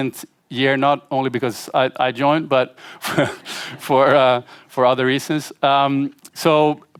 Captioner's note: laughter